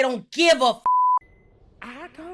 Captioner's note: beep